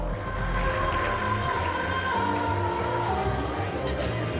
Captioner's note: guests applauding